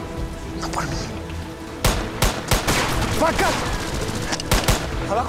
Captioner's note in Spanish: Disparos